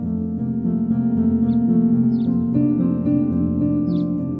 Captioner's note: birds Chirping